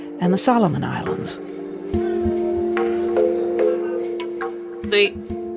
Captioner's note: people chattering